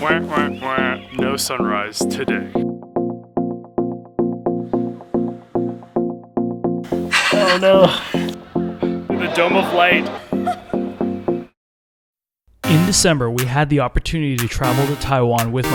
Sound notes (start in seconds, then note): 2.5 upbeat music; 7.0 narrator's laughter; 10.0 laughing